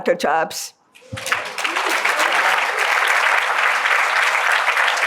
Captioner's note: applause